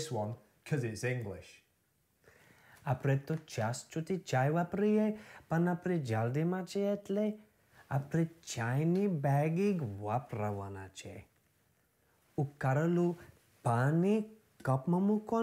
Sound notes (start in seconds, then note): 2.8 speaking Gujarati